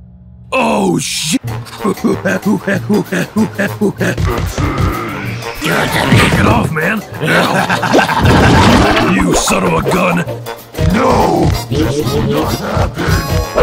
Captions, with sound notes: OH SHI- [HEAVY BREATHING] That's uhhhhh... GIVE IT TO ME [INTENSE LAUGHING] You son of a gun! NO, THIS WILL NOT HAPPEN!